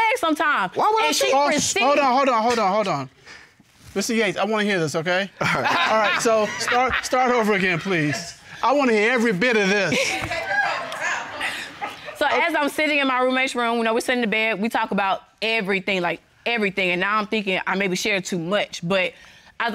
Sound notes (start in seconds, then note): 5.4 laughs; 9.6 overlapping chatter; 9.8 laughter